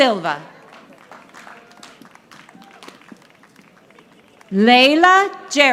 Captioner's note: audience applauding